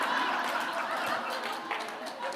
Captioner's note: laughter